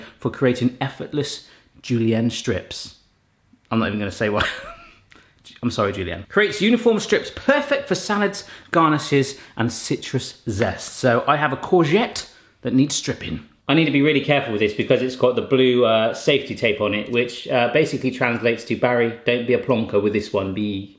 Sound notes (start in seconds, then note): 4.4 laughs